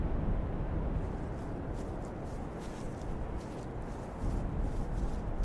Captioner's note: footsteps pattering